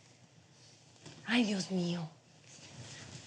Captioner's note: speaking spanish